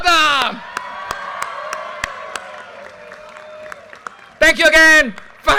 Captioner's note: audience cheers and applause